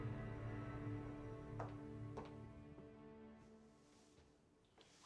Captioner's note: heels clack